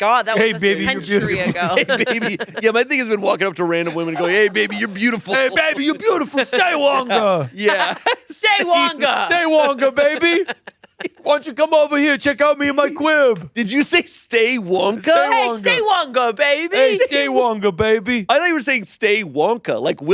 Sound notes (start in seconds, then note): 2.4 laughs